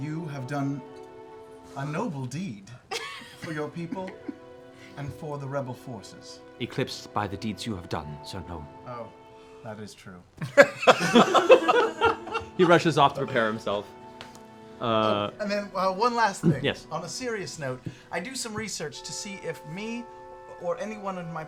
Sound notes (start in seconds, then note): 10.4 laughter